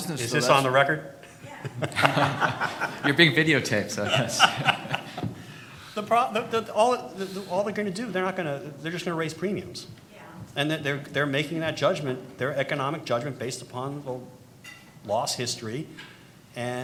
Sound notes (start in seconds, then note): 1.4 audience laughing; 5.6 laughs